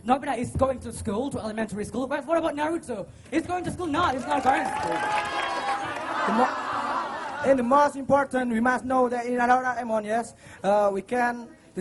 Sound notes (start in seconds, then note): 5.5 chanting